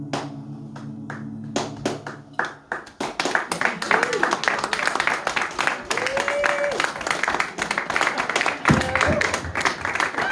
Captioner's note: applause and hoots gradually swell